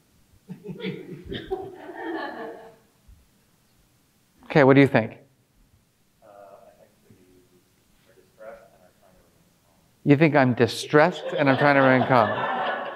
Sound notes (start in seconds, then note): 0.6 audience laughing; 12.7 audience laughing